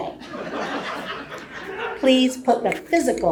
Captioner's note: audience laughing